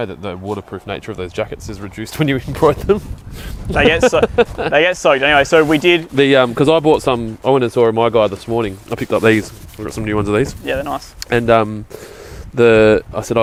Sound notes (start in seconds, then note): 3.7 laughing